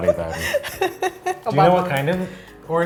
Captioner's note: laughing